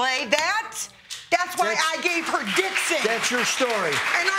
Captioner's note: audience clapping